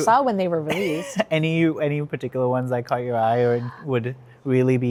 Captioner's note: chuckles